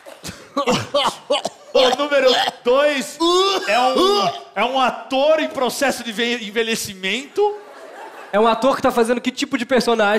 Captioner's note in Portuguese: tosse